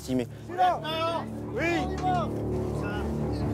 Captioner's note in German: Soldat schreit